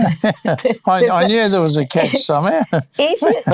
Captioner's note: both laughing